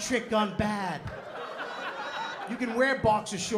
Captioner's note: laughter